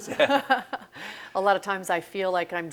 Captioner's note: laughs